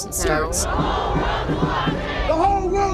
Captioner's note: crowd